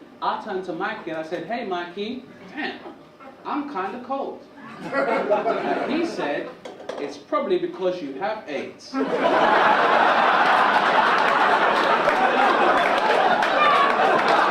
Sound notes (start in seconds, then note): 4.6 audience chuckle; 8.9 audience laugh